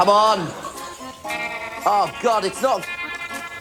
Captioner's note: audience laughing